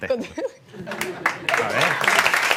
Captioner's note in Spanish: Aplausos